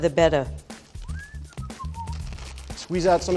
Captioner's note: whistling